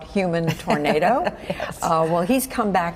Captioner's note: laughter